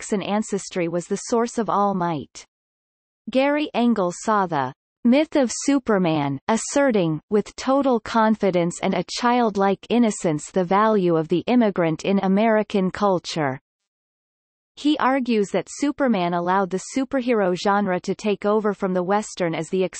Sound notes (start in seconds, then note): 6.1 asserting